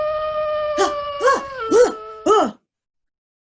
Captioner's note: wolf howls; yells awake